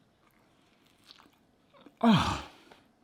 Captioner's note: munching